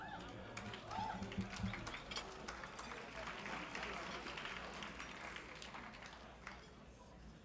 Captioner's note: clapping